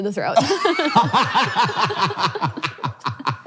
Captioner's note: both laughs